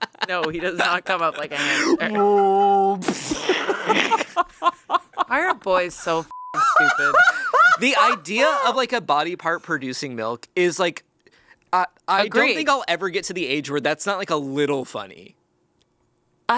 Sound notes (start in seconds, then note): 0.0 laughs; 1.5 moans; 3.2 laughs; 6.3 beep; 6.5 laughs